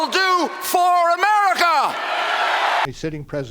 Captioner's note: cheering and applause